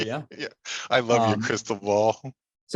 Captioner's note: laughing